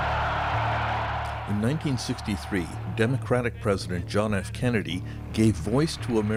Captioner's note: cheers and Applause